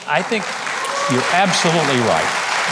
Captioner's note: audience applauding